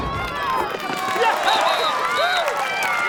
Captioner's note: all cheering and applauding